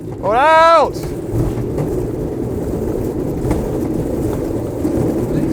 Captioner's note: aircraft whirring